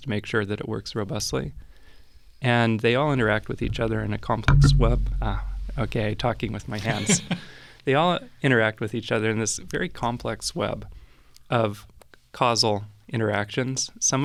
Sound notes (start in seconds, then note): 4.4 thumping sound; 6.8 laughing